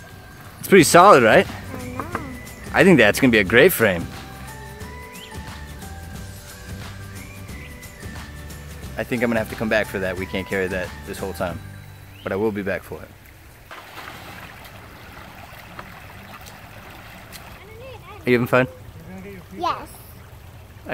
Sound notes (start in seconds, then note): 13.9 stream trickling; 13.9 water splashing